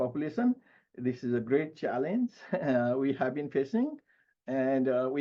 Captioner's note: chuckles